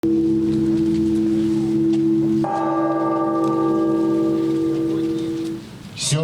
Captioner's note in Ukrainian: звук дзвону